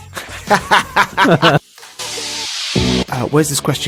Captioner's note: laughs